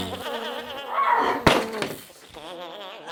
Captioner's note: screams